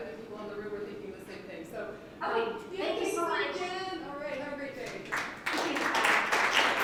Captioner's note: applause